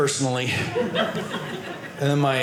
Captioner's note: audience laughing